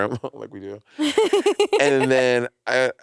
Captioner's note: laughing